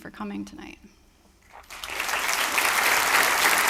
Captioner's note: applause